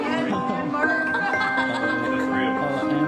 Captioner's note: laughing